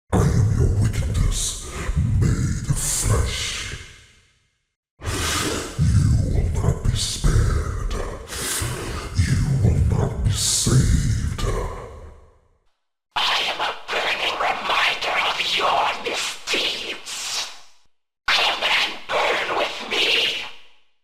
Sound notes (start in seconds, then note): 0.8 extremely Deep Voice; 5.0 inhales; 5.8 extremely Deep Voice; 13.9 voice with Rapidly Shifting Pitch; 18.8 voice with Rapidly Shifting Pitch